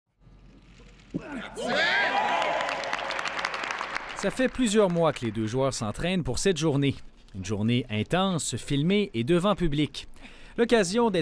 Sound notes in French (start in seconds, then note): 1.8 applaudissements